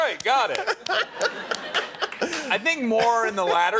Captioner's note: laughing